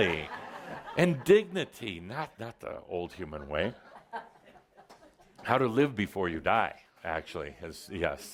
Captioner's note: laughter